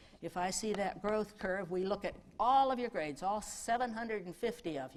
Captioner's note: none